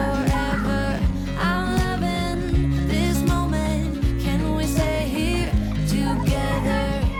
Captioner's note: laughs